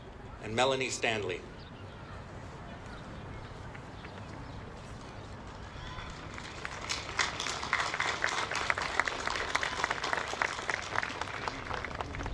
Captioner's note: applause